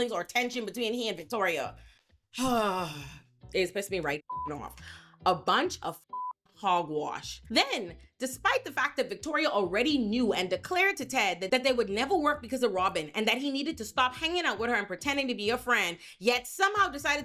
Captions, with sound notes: or tension between he and Victoria. (sighs) It's supposed to be right (beep) off. A bunch of (beep) hogwash. Then despite the fact that Victoria already knew and declared to Ted that they would never work because of Robin and that he needed to stop hanging out with her and pretending to be a friend, yet somehow decided